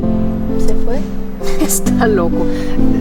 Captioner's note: in Spanish